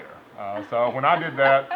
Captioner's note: chuckling